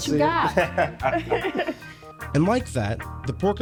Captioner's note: laughing